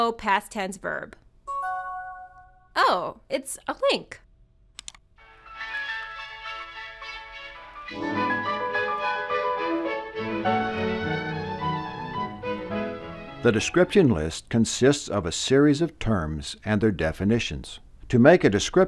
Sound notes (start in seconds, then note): 1.5 new message chime; 6.1 intro music